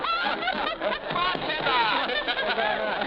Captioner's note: people chuckling; thumping